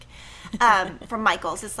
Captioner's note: laughing